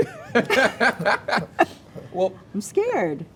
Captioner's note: host laughing